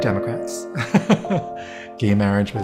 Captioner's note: laughs